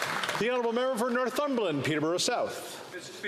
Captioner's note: some Applause